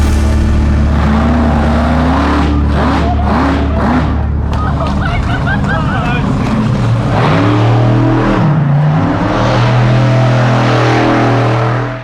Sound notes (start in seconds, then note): 1.6 engine roaring